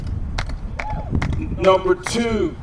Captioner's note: cheer